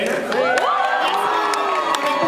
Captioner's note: cheers